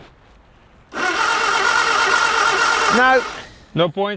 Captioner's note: engine rumbling